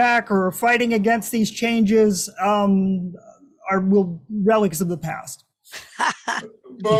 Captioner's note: laughter